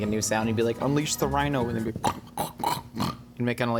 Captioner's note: grunting